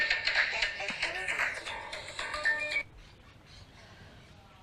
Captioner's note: phone ringing